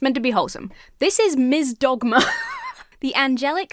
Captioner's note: laughs